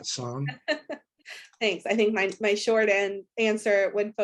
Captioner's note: laughs